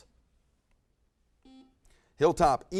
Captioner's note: buzzer buzzes